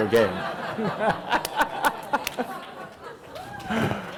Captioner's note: audience laughing